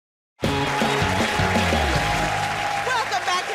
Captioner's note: cheers and applause